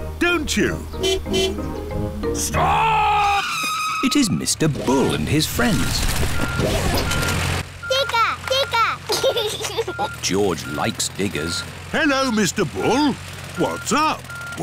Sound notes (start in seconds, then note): 1.0 car honking; 2.4 tires screeching; 6.2 beeping; 9.0 giggles